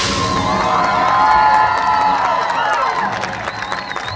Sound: audience Cheering

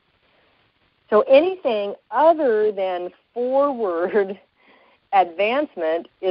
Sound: slight chuckle

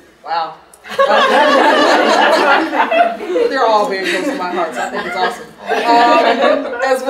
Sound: audience laughing

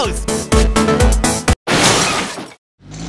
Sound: crash

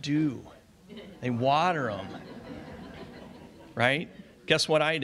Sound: audience laughs

